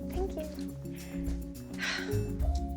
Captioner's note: sighs